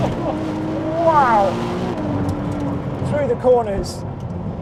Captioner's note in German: Motor brüllt